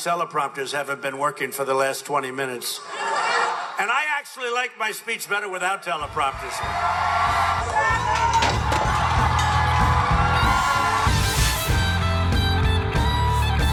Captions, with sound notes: - These teleprompters haven't been working for the last 20 minutes. And I actually like my speech better without teleprompters. (crowd cheering) (rock music)